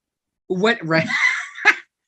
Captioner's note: laughter